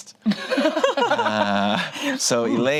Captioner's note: group laughs